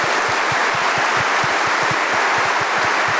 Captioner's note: applause